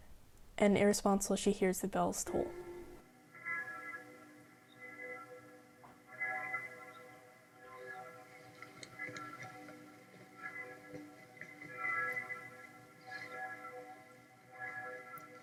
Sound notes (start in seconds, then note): 2.3 bells tolling